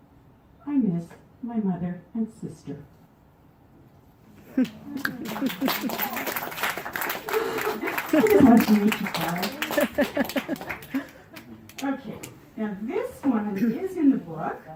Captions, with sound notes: I miss my mother and sister (applause) I just wanted to make you cry (chuckling). Okay, now this one is in the book